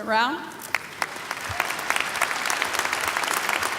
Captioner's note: applause